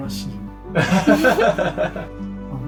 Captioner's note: laughs